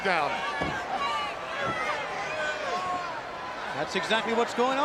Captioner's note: crowd cheering